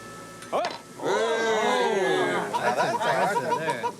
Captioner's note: remarks of surprise